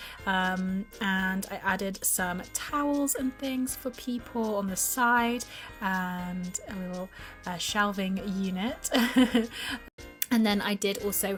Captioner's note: laughs